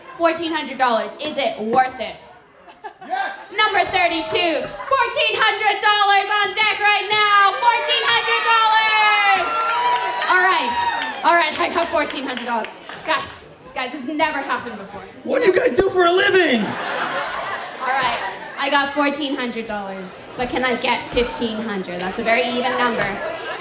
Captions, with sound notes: $1400, is it worth it?" -Yes. -Number 32, $1,400 on deck right now. $1,400. [cheering] All right. I got $1,400. Guys, this never happened before. -What do you guys do for a living? [laughter] -All right. I got $1,400 but can I get 1,500? That's a very even number.